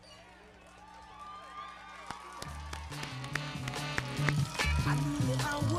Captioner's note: audience cheering; everybody clapping